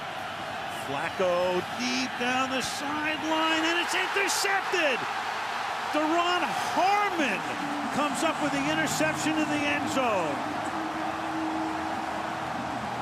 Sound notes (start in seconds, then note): 4.7 cheering